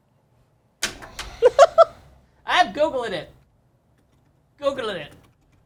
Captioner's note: laughs